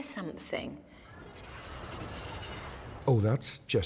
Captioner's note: shrieking